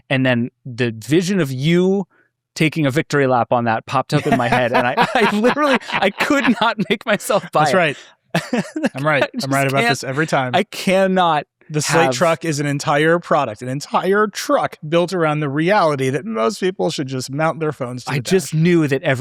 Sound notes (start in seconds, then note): 8.3 laughing